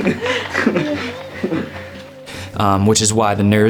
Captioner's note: laughing